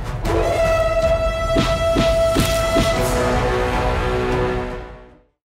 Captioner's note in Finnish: tappelun ääniä